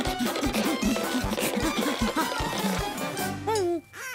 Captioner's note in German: Quietschen und Knarzen